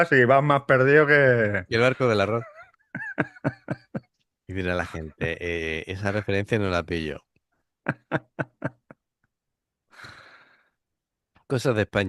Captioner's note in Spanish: risas